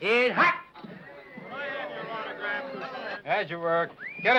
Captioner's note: men chattering